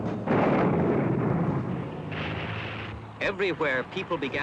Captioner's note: explosion